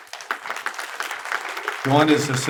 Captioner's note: attendees applaud